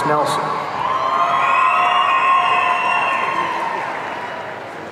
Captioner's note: audience cheering